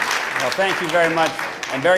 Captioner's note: applause